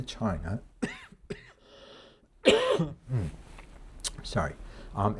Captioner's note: lecturer coughing